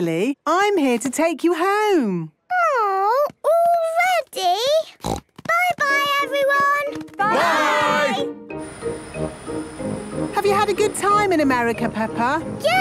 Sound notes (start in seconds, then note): 4.9 snort